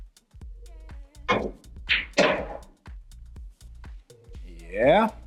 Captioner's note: billiard balls clanging